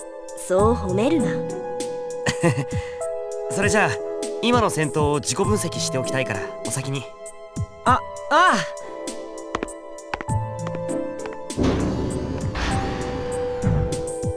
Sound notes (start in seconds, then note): 2.2 chuckle